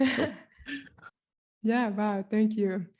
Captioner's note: laughs